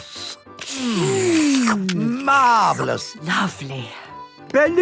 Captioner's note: slurping